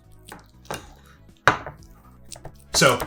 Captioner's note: casserole clattering